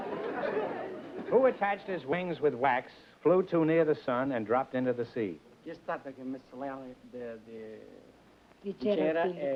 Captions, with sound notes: Who attached his wings with wax, flew to near the sun, and dropped into the sea? [SPEAKING ITALIAN]